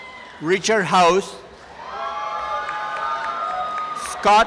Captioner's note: applause and cheering